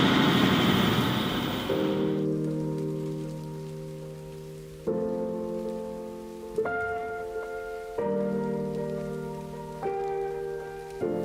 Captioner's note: sigh